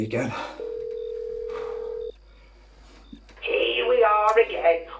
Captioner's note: telephone ringing